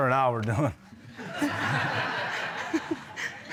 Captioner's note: audience laughing